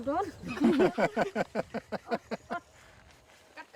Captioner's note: laughing